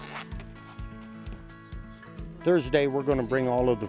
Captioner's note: bag tearing